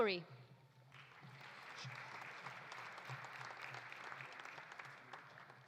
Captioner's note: audience applauding